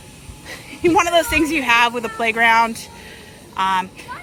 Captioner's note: laughs